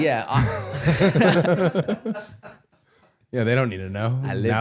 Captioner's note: everyone laughing